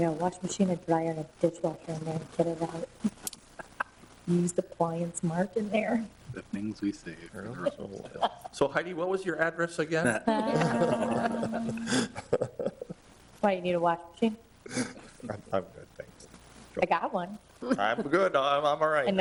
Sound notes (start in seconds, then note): 3.5 laughing; 10.0 all laughing